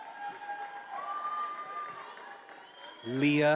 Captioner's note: attendees applauding and cheering